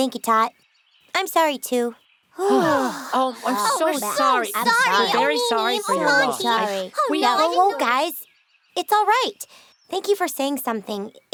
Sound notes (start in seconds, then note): 2.4 all exhaling loudly